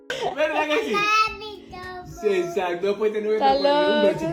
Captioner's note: speaking Spanish